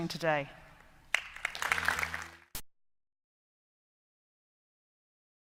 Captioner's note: applause